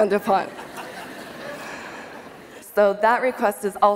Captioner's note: laughter